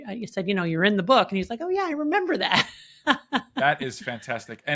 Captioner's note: chuckles